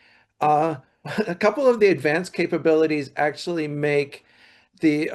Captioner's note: laughs